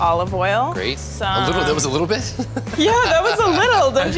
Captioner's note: laughs